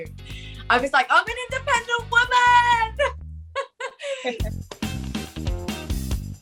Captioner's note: laughs